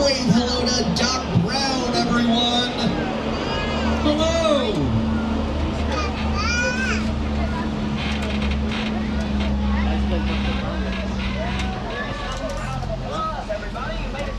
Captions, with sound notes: Wave hello to Doc Brown, everyone! Hello! (baby cooing) (tram creaking) - Have a round of applause, everybody,